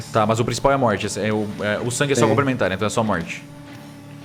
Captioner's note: none